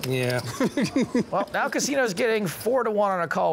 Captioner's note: laughing